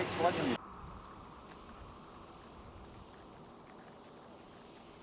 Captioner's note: feet tapping